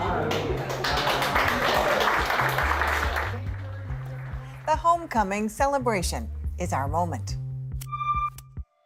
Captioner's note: applause